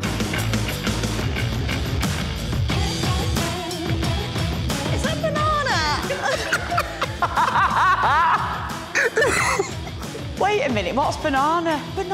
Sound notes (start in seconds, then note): 0.2 upbeat music; 6.0 laughter